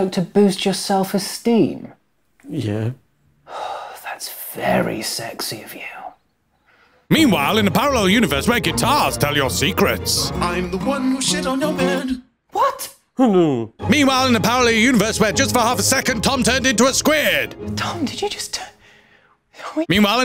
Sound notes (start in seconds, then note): 3.5 sighs; 13.0 mumbling